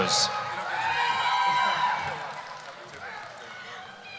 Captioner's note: cheering